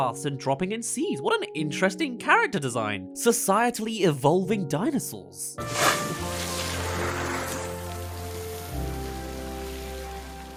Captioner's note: sprinkler